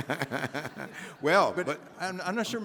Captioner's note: Henry laughing